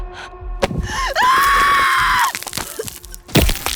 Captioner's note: panting; Sarah screams; body tearing